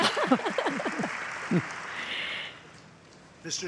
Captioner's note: laughter